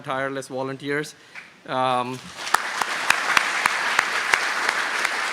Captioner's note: applause